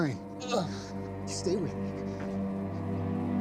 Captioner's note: groans